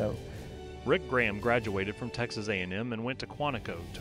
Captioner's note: voiceover